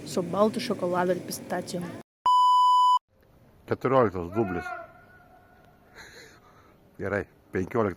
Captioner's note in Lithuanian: kažkas rėkia